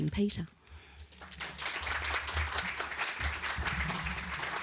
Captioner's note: applause